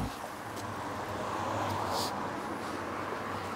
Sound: quiet traffic noise

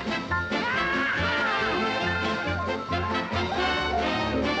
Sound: cowboys whooping

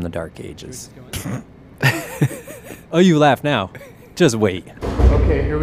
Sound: laughs

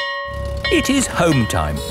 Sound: school bell ringing

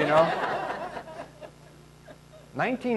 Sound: laughing

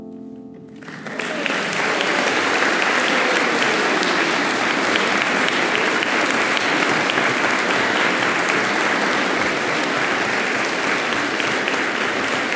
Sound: applause

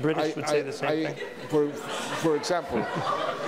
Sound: audience laughs

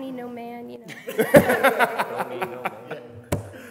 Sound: laughs

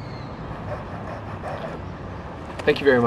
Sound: panting

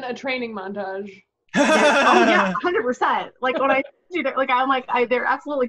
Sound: laughing

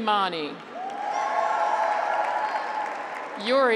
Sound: graduates cheer

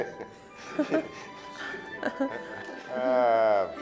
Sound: laughter

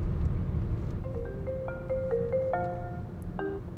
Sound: phone ringing

